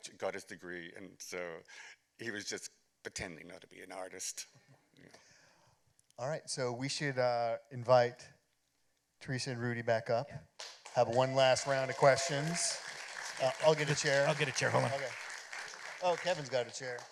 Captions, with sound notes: got his degree, and so he was just pretending not to be an artist. All right. We should invite Teresa and Rudy back up-- -Yes. --have one last round of questions. [applause] -I'll get a chair. -I'll get a chair. Hold on. Okay. Oh, Kevin's got a chair.